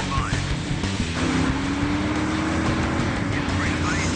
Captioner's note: car engine roars; upbeat rock music